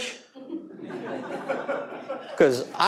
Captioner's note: audience laughing